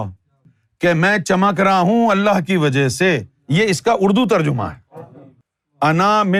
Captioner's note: in Urdu